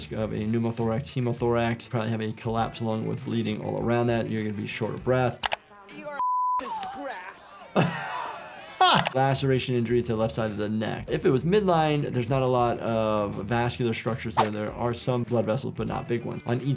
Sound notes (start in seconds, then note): 6.2 beep; 6.6 laughs; 7.3 Brenda gasping